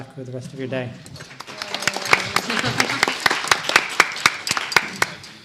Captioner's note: applause